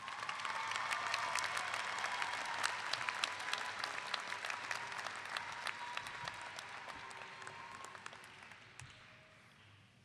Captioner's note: clapping